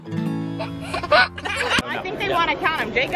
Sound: baby giggling

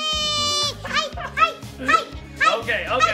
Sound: dad laughing

